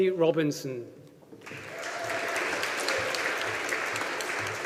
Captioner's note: audience applauding